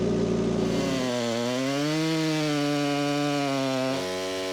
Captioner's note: chainsaw roaring